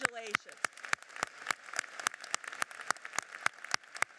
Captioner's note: applauding